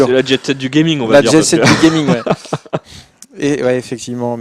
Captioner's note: laughs